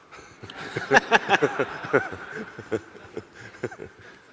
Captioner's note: audience laughing; laughs